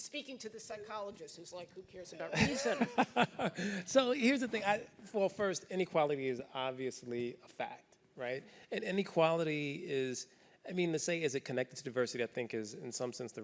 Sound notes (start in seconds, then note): 2.3 laughs